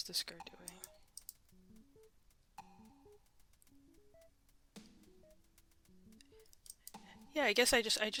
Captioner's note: mouse Clicking; silence then Mouse Clicking